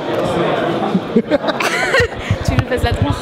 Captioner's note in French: Rires